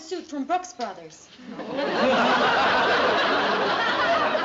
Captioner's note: laughter